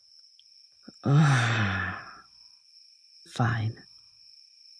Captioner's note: groan